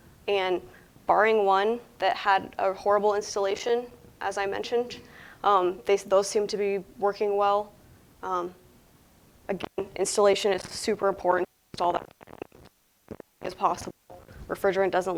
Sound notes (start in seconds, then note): 11.7 audio cuts out briefly